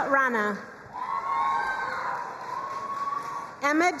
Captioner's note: crowd cheering and applauding